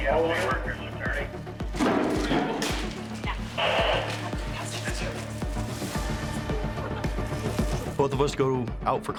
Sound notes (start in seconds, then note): 1.3 deputies chatter